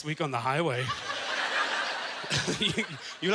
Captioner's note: audience laughter